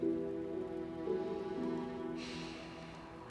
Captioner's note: sighs